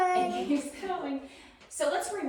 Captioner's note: group laughing